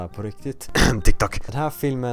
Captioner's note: ahem